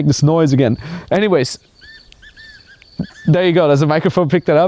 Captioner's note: bird squawking